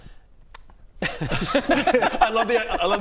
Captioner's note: laughs